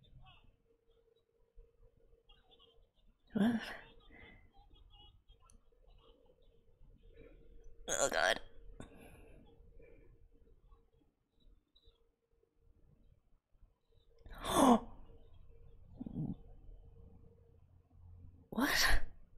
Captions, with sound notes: What? [strained] Oh god! [gasps] What?